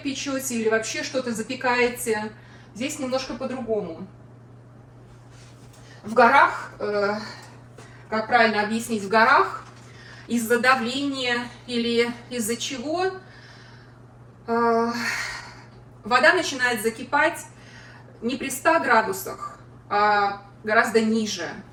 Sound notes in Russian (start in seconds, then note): 14.9 вздыхает